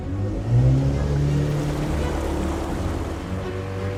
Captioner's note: boat engine revving